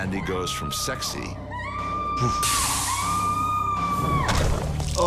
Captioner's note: Sandy screaming